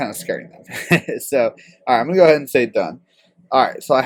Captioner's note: laugh